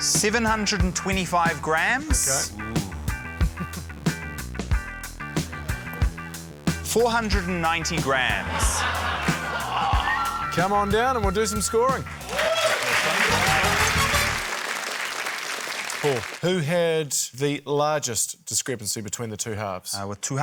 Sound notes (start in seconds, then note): 8.4 laughter; 9.8 groans; 11.8 cheering, applause